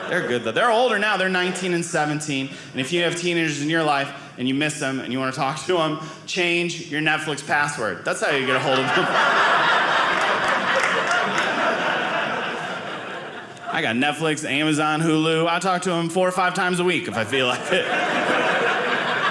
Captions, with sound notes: They're good-- they're older now. They're 19 and 17. And if you have teenagers in your life and you miss them and you want to talk to them, change your Netflix password. That's how you get a hold of them. (audience laughing) I got Netflix, Amazon, Hulu. I talk to them four or five times a week, if I feel like it. (audience laughing)